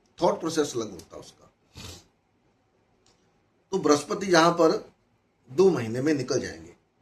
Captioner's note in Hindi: नाक से की जाने वाली आवाज़